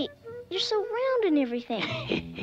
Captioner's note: Rock Man laughing